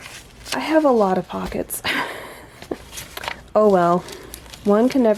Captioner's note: laughs